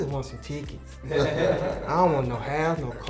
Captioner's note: laughing